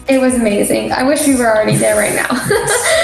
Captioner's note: laughing